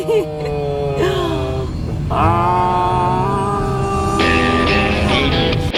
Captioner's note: screaming in unison; upbeat country music